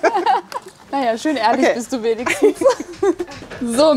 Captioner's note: laughing